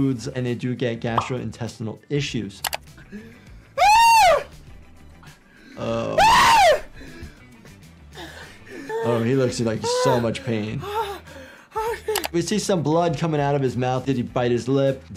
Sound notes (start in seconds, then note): 3.7 Speedy screaming; 9.9 Speedy gasping